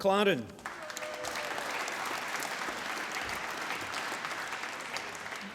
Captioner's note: applause